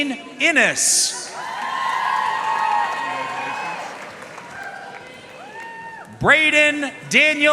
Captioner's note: audience cheering and applauding